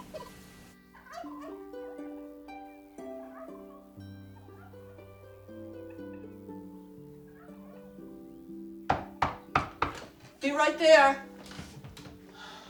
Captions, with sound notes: [turkeys gobbling distantly] -[knocking] -Be right there.